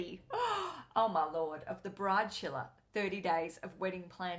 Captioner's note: gasps